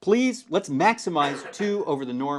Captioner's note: cough